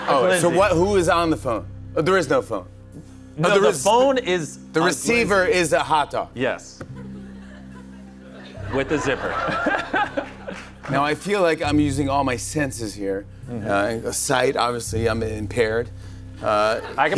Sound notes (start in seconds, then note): 9.9 laughs